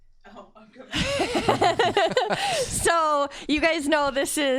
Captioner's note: laughs